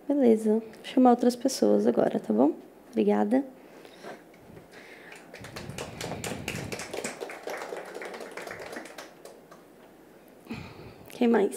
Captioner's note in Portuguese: palmas